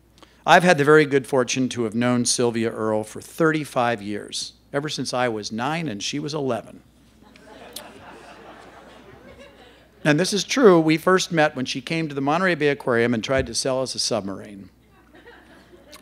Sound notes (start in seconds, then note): 7.2 laughter